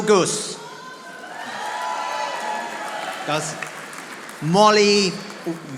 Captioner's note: audience applauding